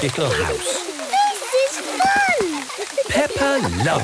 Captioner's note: laughter